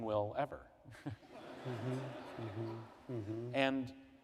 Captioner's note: laughter